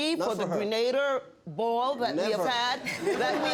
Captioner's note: laughter